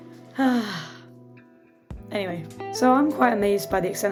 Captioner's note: sigh